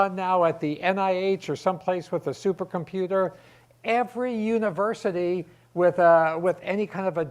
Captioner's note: none